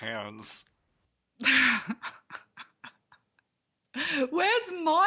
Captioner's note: laughs